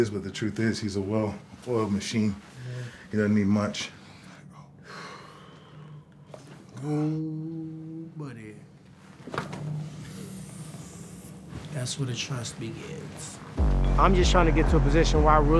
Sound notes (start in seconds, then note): 4.8 exhales deeply; 10.1 inhales sharply